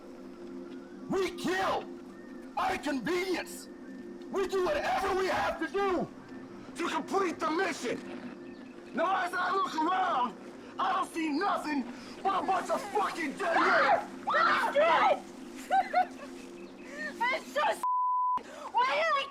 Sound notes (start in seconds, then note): 14.2 Anne screams hysterically